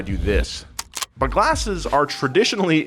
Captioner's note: clicks